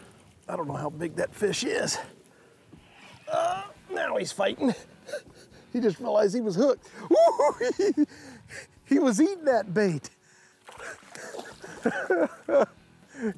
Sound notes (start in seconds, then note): 7.0 giggles; 10.8 laughs